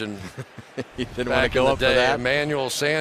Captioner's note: laughs